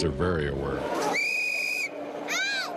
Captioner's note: whistle blowing